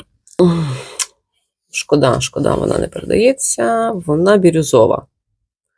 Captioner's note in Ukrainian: сопіння